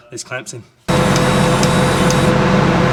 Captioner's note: motor whirring